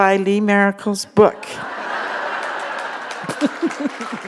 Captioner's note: laughter; applause